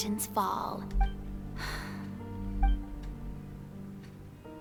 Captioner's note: sigh